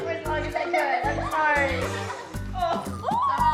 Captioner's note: farts